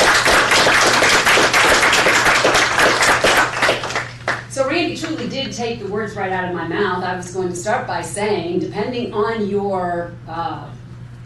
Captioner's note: applause